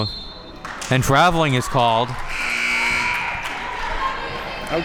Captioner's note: whistle blows; buzzer rings